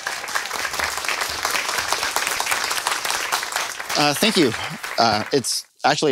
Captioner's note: applause